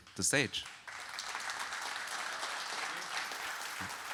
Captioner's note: audience applauding